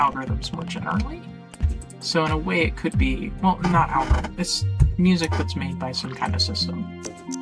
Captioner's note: creaking chair noise